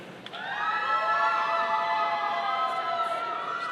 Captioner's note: audience cheering